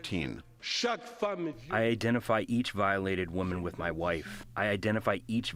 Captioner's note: through translator